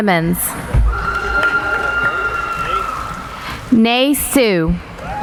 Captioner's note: applauding